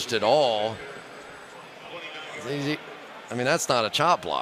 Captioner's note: pa announcement